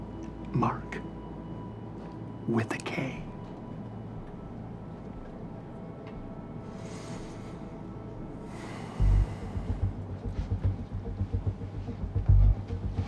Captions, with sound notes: Mark, with a K. (deep breaths) (suspenseful music)